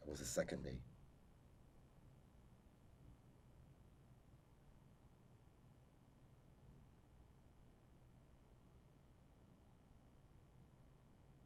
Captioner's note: pauses 24 seconds